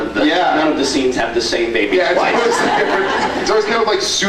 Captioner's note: laughing; laughs